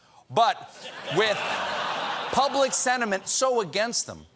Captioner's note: laughter